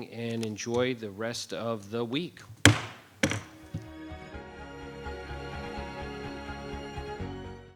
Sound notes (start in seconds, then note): 2.4 banging gavel; 4.0 gentle music